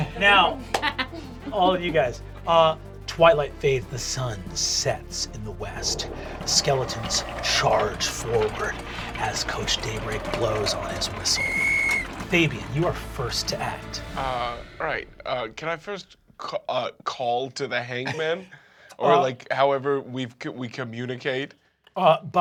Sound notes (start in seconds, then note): 6.6 chains rattle; 11.1 whistle blows